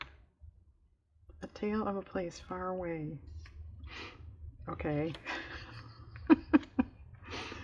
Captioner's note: laughs